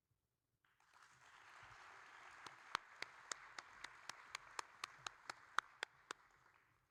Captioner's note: audience and applauding